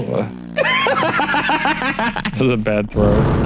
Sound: fake fart sounds; laughs

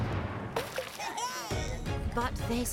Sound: cheering

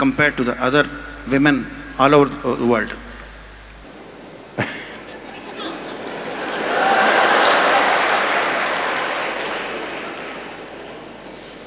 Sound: laughter/Applauds

